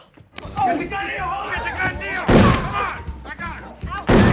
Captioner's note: shouting, gunshots